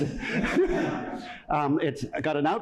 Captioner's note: laughter